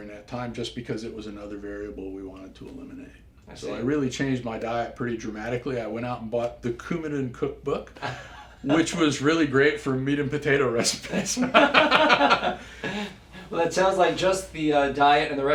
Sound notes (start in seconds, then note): 8.0 laugh; 11.0 laugh